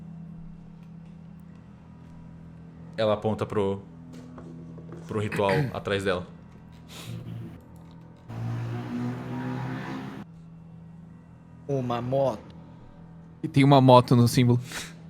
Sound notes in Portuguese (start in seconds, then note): 8.3 Som de uma moto passando